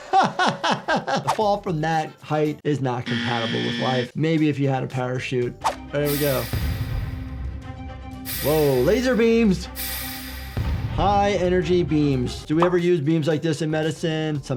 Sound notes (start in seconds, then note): 0.0 laughing; 3.0 buzzer buzzing; 5.8 intense music